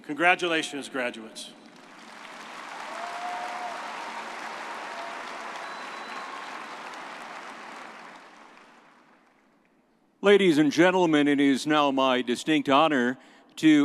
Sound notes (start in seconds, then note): 1.7 everyone applauding